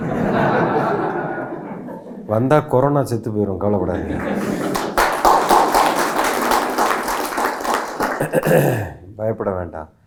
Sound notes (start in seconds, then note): 0.0 audience laughs; 4.2 audience Cheer